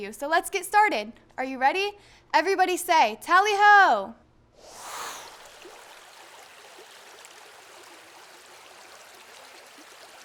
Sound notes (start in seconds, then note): 4.6 air whooshing; 4.9 water trickling